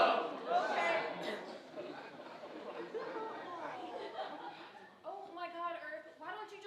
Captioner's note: audience laughing